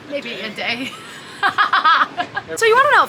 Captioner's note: laughing